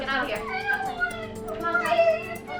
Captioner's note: crying